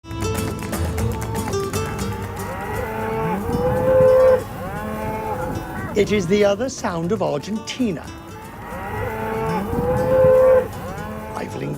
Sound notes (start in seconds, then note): 1.8 cows mooing